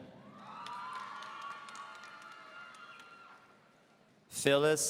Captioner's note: audience cheering